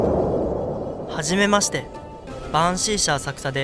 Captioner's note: sound of busy city